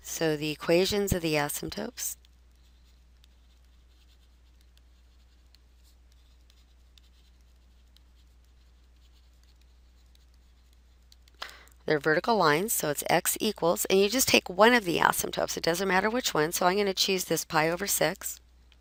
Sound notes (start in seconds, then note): 2.6 writing